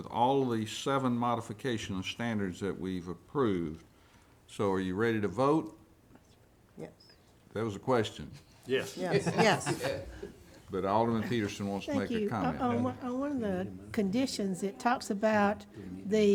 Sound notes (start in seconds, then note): 9.0 man laughing